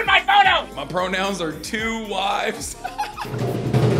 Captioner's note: laughter; drum roll